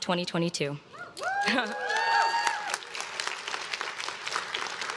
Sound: crowd claps and cheers

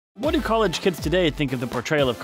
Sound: voice-over

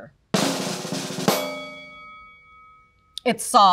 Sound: drum roll; bell dings

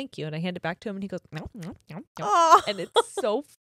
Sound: munching

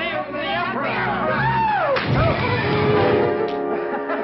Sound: yelping; laughing

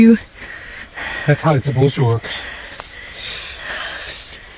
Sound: pants

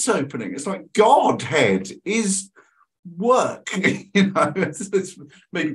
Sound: laughs

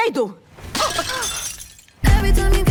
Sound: glass shattering

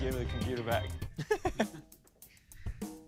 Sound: laughs

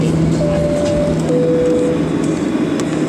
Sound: seat belt chime

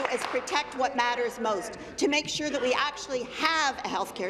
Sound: applause

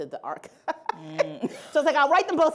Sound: laughing

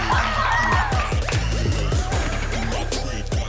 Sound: cheering

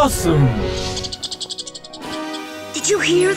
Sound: squeaking

